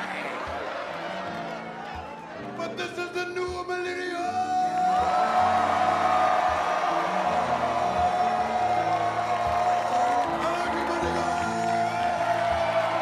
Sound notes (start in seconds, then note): 0.0 audience laughs; 4.2 audience cheers